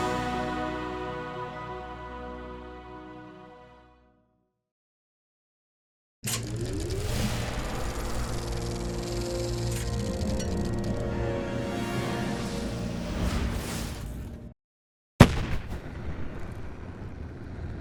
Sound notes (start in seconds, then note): 6.3 movie reel spinning; 8.6 suspenseful music